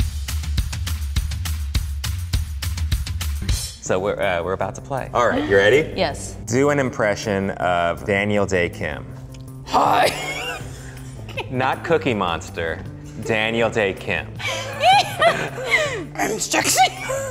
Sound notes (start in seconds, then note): 0.2 upbeat music; 14.4 laughter